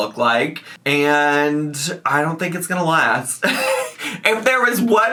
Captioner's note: laughs